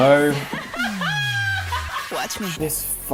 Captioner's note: laughs